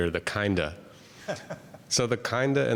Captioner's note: laughs